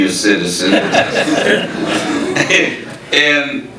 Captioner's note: audience laughing; laughing